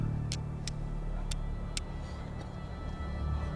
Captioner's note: striking flint